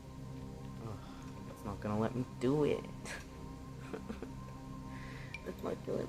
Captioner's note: fake sob